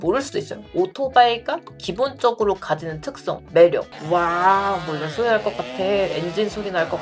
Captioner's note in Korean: 배기음